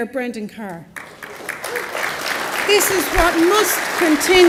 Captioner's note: applause